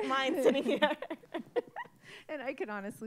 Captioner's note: all laughing